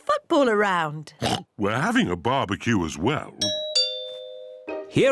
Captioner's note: oinks; doorbell rings